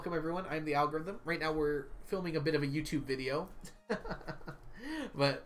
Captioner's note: laughs